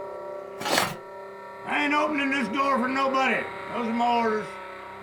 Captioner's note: slides open